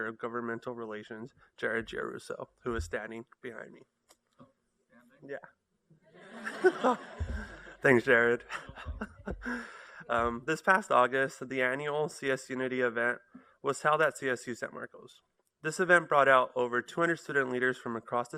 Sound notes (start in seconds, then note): 6.2 laughter